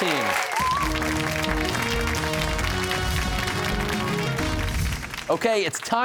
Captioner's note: cheers and applause